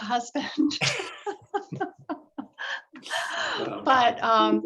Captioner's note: laughter